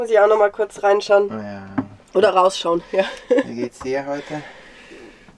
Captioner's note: laughter